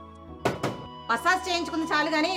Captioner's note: door knocks